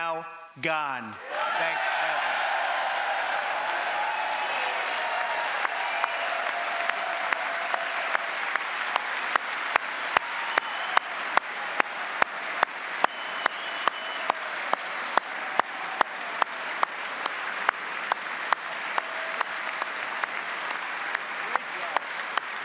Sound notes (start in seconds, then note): 8.2 cheers and applause; 17.6 applause